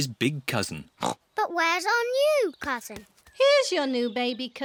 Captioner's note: oinks